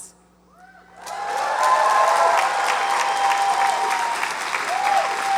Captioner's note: audience applauds and cheers